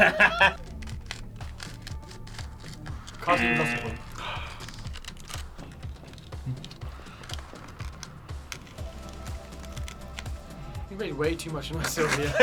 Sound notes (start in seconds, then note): 0.0 laughing; 0.9 pie crunching; 2.9 klaxon blares; 5.6 pie crunching